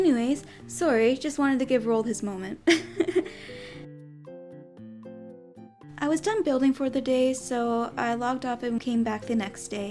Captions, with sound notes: anyways... Sorry, just wanted to give Roald his moment *giggles* I was done building for the day so... I logged off and came back the next day